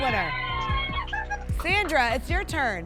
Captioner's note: cheering